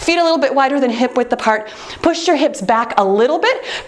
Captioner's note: none